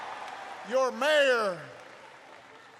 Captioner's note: applause